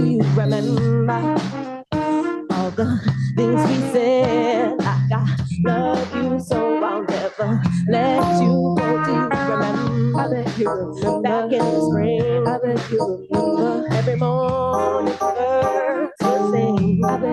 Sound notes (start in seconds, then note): none